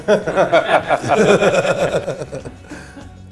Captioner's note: men laugh